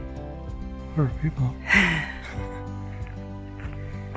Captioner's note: laughs